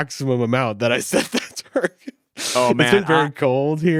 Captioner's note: laughs